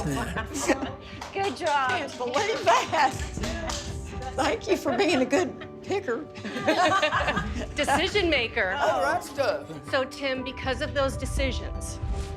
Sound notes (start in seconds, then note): 2.8 group clapping